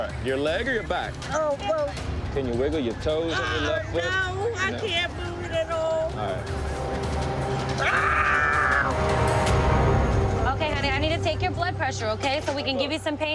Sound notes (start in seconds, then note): 7.8 screaming